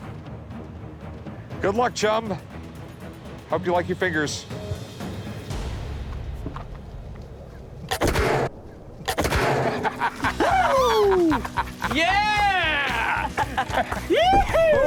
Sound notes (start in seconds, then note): 7.9 loud gun fires; 9.6 laughing